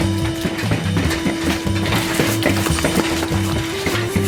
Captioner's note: door rattling